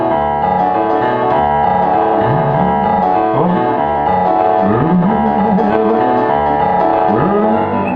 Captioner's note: groaning, grunting